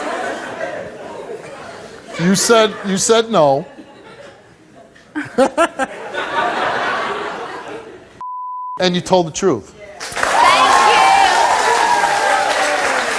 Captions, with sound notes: You said no. (laughs) And you told the truth. (audience applauds)